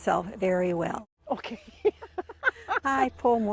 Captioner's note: laughs